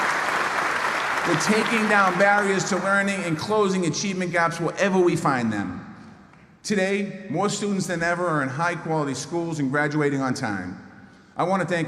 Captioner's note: applause